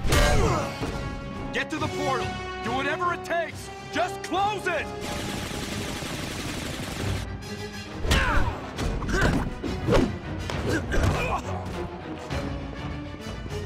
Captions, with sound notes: Get to the portal. Do whatever it takes. Just close it! [GUNFIRE] [FIGHTING SOUNDS]